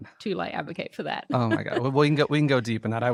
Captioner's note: laughs